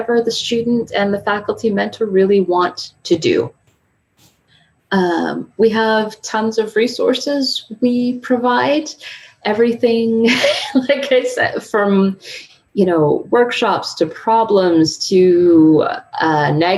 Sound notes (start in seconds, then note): 10.4 laughing